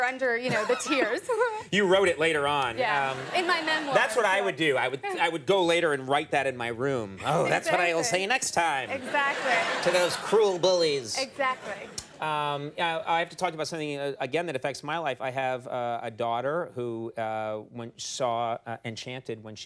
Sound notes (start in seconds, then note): 2.8 audience laughing; 8.7 audience laughing